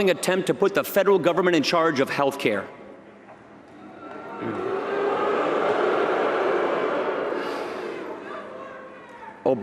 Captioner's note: booing